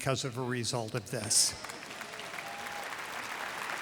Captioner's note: applause